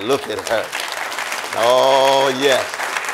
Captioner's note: audience applauding